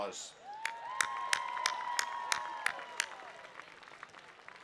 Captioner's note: applause